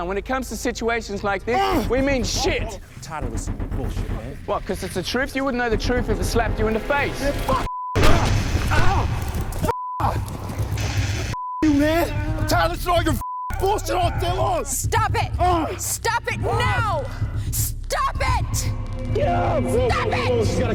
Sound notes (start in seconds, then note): 2.9 Carter groans; 8.2 Robert grunts and moans; 9.7 Robert screams; 16.0 both men grunt and moan